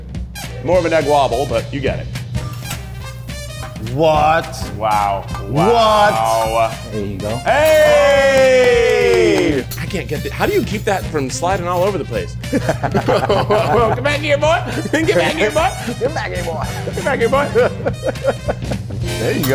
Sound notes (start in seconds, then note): 12.4 both laugh; 17.2 laughs